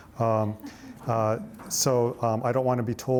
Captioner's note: audience laughs